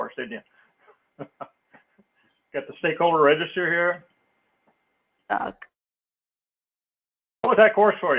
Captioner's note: laugh